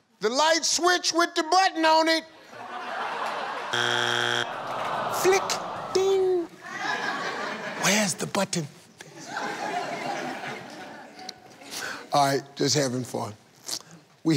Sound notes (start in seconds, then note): 2.4 audience laughing; 5.2 buzzing; 7.5 audience laughing